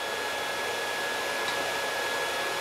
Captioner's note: sound of sawing